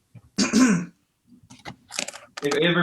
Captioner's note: clears throat